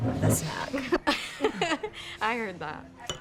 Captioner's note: laughter